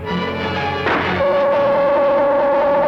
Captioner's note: gun humming; gunshot